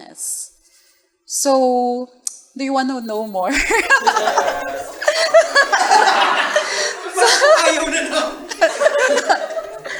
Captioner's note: laughter